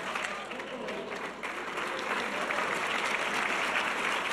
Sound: audience applause

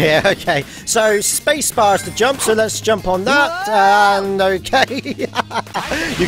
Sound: laughter

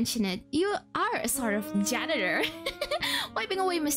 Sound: chuckles

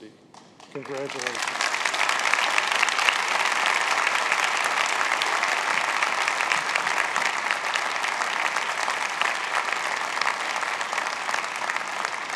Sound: applause

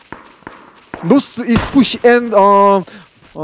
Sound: in broken English

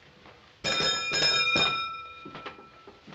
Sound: clanging

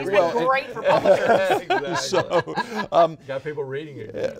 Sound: laughing; laughs

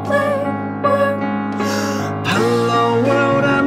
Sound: breath

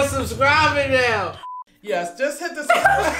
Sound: electronic beep; laughs

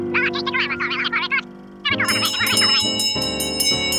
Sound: bell ringing; vaudeville music

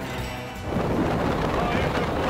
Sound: wind blowing

